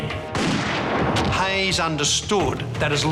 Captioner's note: gun fires